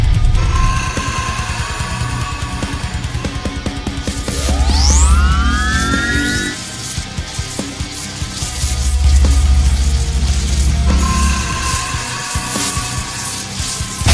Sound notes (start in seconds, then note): 0.4 scorpion beast shrieks; 4.0 stinger whirring; 4.3 electricity crackling; 10.5 scorpion beast shrieks